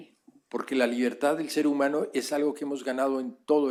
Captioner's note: spanish